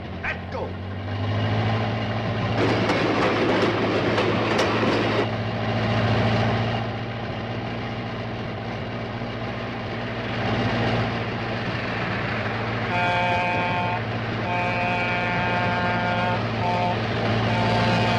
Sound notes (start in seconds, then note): 0.0 engine revving; 14.4 train whistle blowing